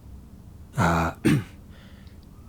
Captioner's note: clears throat